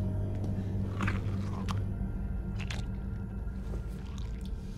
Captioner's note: badly synchronized eating sounds